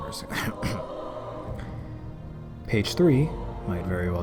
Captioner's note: cough cough